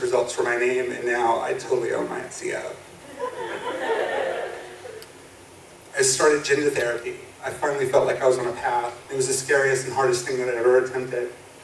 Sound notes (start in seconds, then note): 3.0 audience laughs